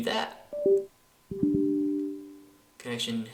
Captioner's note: Windows Sounds